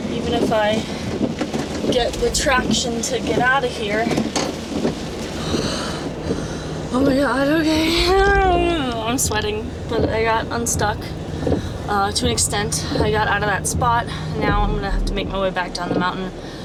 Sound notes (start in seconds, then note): 4.8 heavy breathing